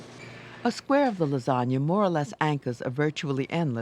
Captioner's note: voiceover